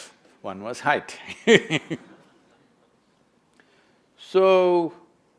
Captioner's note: laughs